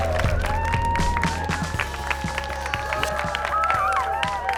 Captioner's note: cheers and applause